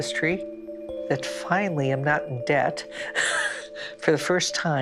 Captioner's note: laughs